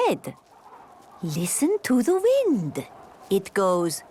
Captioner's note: wind blowing